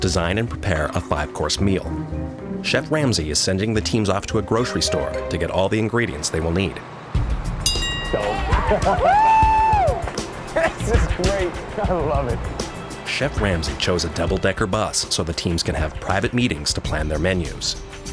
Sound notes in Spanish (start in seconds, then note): 7.6 bell dings; 8.2 vítores y risas